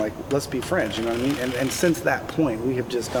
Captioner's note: drill buzzes